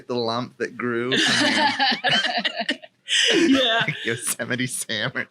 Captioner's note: laughing